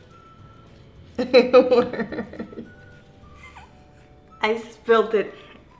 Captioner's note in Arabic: يضحك